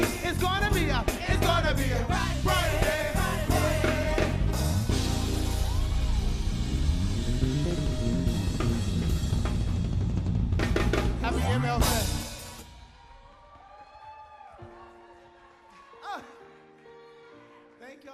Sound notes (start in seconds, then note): 11.1 cheers and applause